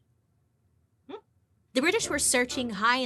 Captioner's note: humming in thought